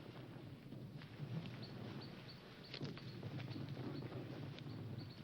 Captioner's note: none